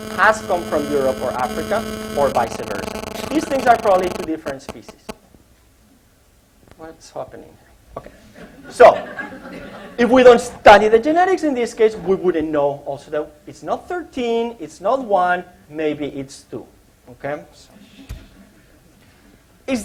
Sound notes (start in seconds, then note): 5.2 microphone buzzing; 8.1 laughter